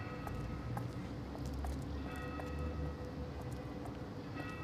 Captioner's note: church bells tolling